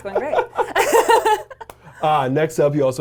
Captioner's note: laughs